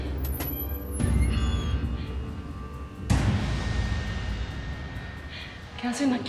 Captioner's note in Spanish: Crujido de la puerta